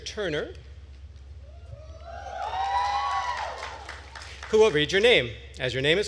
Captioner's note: attendees cheering and applauding